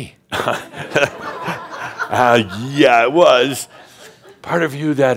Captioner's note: laughter